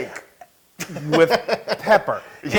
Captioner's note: laugh